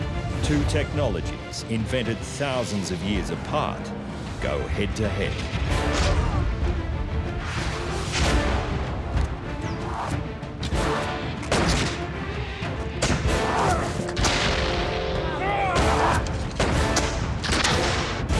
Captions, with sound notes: Two technologies, invented thousands of years apart, go head to head. [man screams] [shots firing] [men shouting] [shots firing]